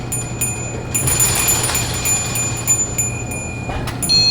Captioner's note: bell ringing